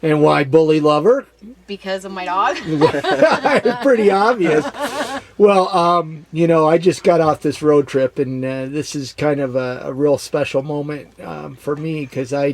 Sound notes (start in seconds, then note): 2.4 laughs